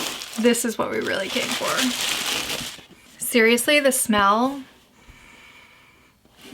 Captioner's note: sniff